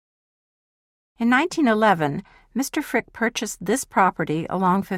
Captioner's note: voiceover